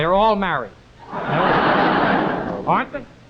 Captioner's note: audience laughing